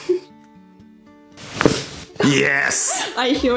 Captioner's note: crunches of bones; laugh